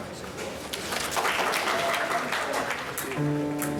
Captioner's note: applause; piano playing chord